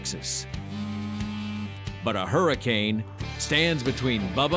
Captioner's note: cell phone vibrates